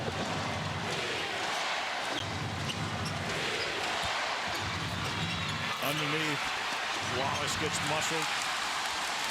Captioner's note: crowd chanting "defense"